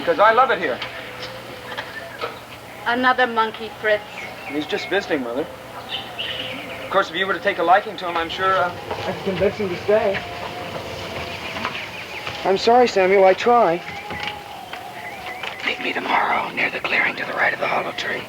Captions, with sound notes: - Mother won't mind! I'll get her some bird eggs. - All right, we'll continue with Charlemagne tomorrow. In the meanwhile, class dismissed. (kids cheer) Ernest, you and I are off for the turtle hunt. (wildlife chittering)